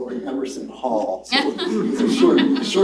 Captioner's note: laughter